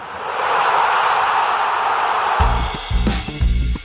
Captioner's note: crowd Roaring; upbeat Music